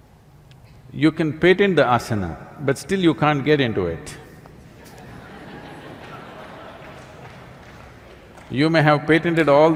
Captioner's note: laughter